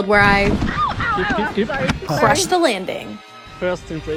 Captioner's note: crash sounds